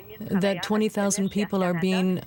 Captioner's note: speaking French